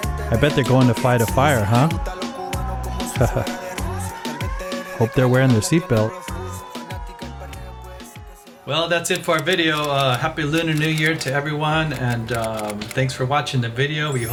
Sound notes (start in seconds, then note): 3.1 laughs